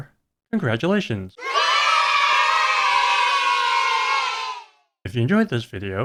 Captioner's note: kids cheering